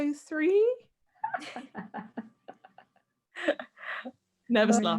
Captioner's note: laughs